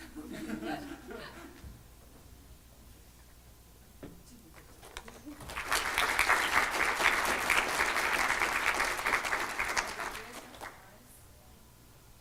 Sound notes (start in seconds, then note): 0.0 chuckles; 5.4 applause